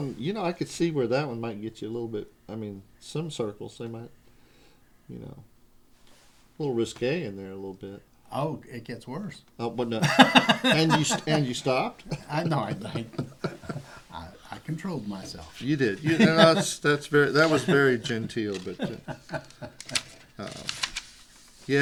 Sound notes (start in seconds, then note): 10.0 laughter